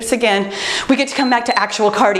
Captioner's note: timer beeps